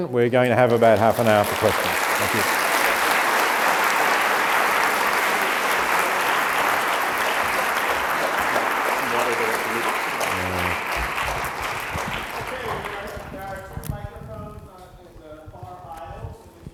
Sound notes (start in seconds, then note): 2.9 applause